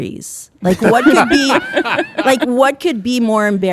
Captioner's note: hosts laughing